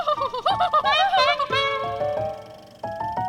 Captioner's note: laughing; trumpeting laugh